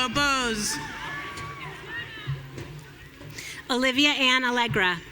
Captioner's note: audience cheering